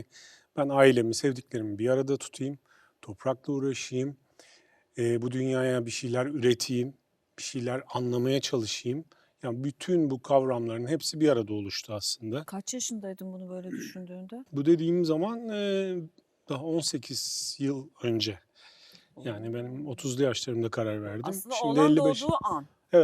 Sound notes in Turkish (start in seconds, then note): 13.6 boğazını temizler